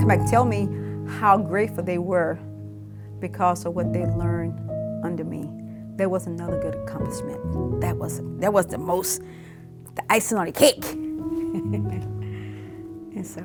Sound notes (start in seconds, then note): 11.4 chuckles; 12.2 melancholy music